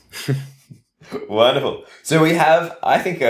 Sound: laughs

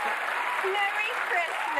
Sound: cheers and applause

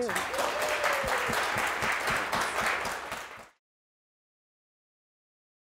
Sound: audience applauds

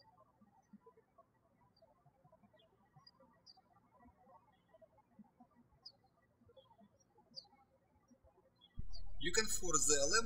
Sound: birds chirping

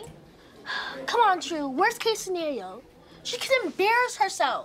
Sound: exhales

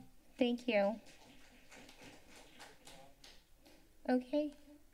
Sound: applause

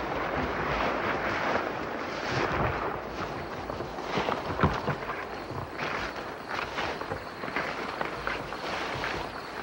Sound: insects chirping amidst the sound of rustling

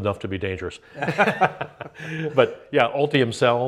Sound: laughs

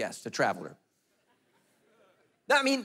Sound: congregation laughing

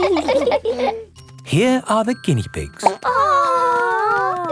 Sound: laughing; plop

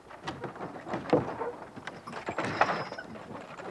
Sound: wagon rattling

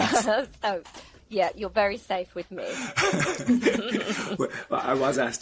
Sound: all laughing

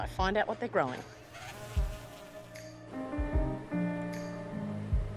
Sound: insects buzz and hum

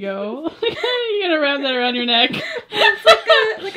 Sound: laughs; laughs

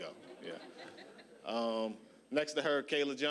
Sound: audience laughing

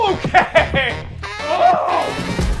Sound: yells

